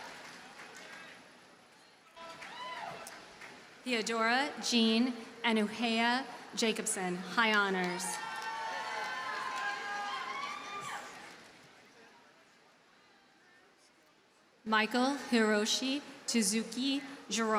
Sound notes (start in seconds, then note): 7.7 audience cheers and applauds